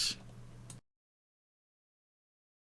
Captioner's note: silence